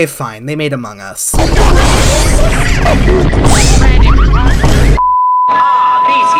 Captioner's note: obnoxious among us meme noises